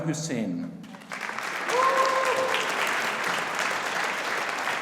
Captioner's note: audience applauding